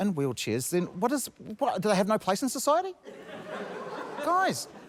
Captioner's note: laughter